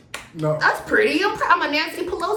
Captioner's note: claps